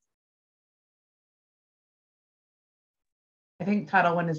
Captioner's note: silence